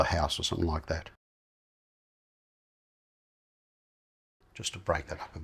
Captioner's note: silence